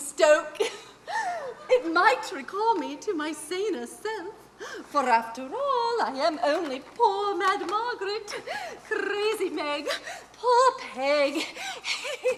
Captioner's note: continues to laugh